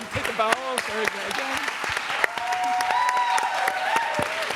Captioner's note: applause